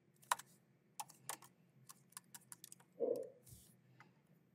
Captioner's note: keyboard clacking